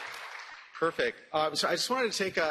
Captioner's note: applause